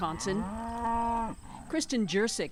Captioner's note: cows mooing